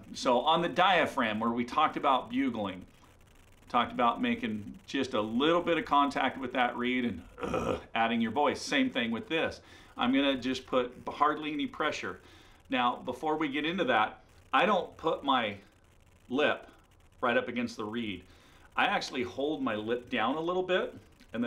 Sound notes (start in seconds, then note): 7.3 low groan